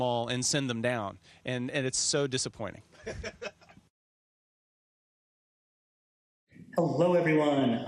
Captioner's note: laughing